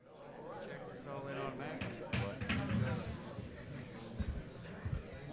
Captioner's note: gavel pounding